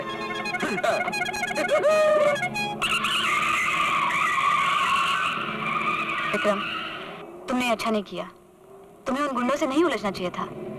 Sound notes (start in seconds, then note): 0.0 horn blares; 2.8 tires squealing